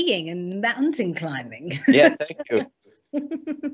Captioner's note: laughs